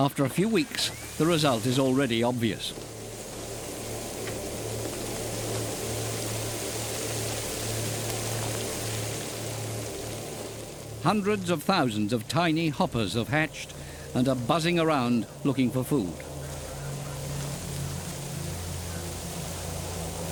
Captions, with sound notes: After a few weeks, the result is already obvious. [locusts hissing] Hundreds of thousands of tiny hoppers have hatched and are buzzing around looking for food. -[intense buzzing] -[heavy winds]